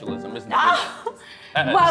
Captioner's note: scoffs